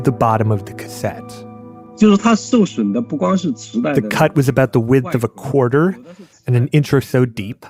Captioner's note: speaking Mandarin Chinese